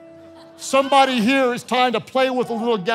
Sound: congregation laughing

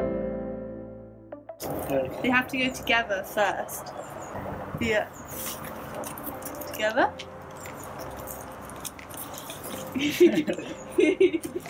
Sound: laughter

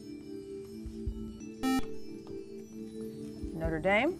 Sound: buzzer

